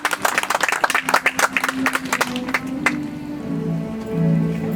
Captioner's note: audience applauds